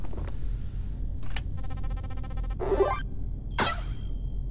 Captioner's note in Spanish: ¡Ruido feliz de escaneo x2!